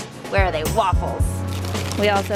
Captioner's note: packages rustling